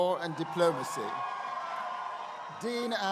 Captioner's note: crowd cheering